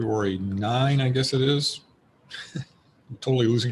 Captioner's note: chuckles